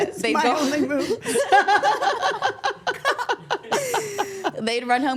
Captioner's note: everyone laughs